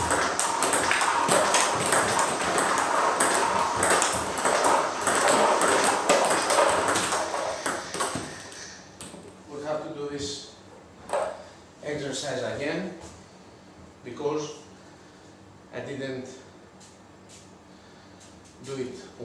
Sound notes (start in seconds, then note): 0.0 ball ping pong hitting continues